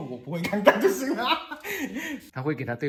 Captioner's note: laughing out loud